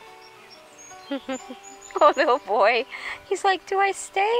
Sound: laughs

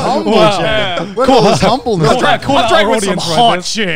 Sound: group chattering

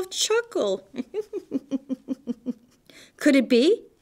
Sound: soft chuckling

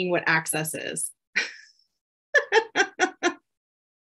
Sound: laughs

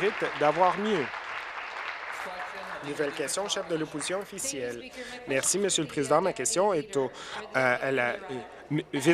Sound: applause

